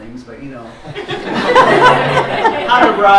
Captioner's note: laughter